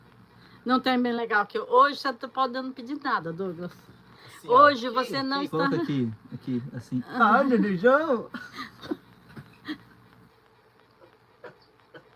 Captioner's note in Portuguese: risadas